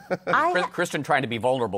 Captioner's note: laughs